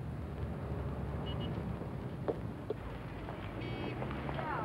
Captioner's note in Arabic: صوت بوق السيارة